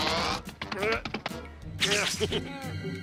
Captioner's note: straining, laughs